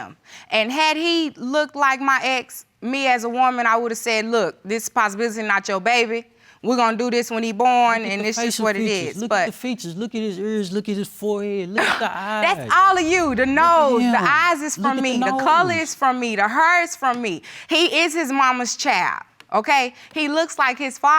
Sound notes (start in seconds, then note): 11.8 scoffs